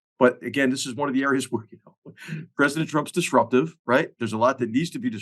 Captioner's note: laugh